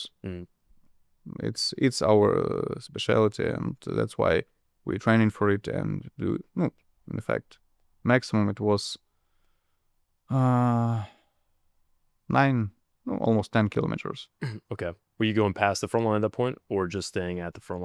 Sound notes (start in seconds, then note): 14.4 clears throat